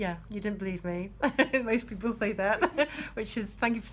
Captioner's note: laughs